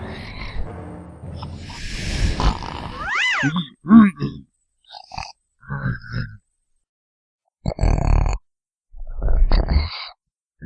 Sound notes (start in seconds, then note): 2.3 grunting; 4.5 snorting/groaning; 7.5 snoring